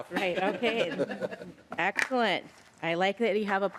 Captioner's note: laughter